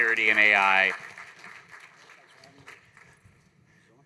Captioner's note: applause